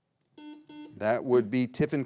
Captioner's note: buzzer beeping